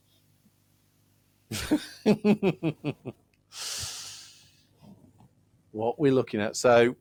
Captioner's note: laughing